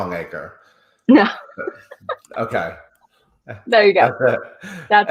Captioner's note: laughs